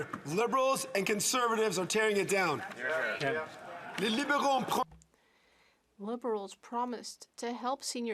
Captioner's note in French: voix de l'interprète